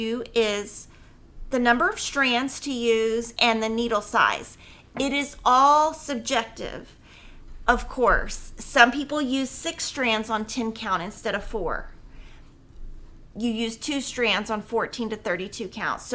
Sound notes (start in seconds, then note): none